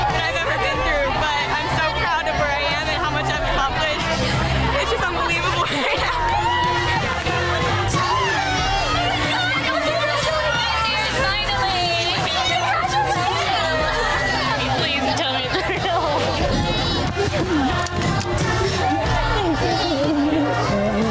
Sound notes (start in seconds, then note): 6.2 upbeat music; 6.2 women cheering